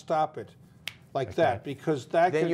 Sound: snapped fingers

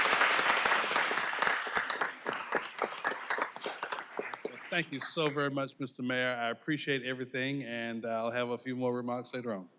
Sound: applause

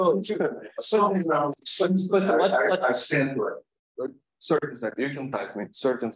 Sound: laughs

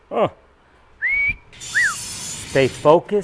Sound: man whistling; metal shearing

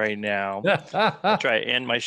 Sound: laughs

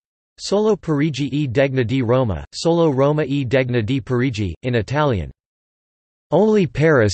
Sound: in Italian

